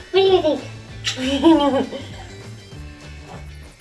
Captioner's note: giggles